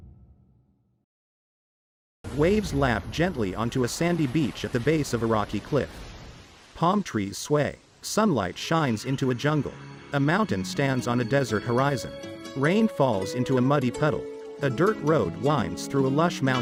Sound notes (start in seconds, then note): 2.2 waves gently crashing; 8.5 jungle birds singing; 13.8 slow mexican guitar playing